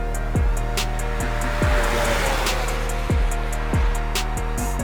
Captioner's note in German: schnelles Auto-Dröhnen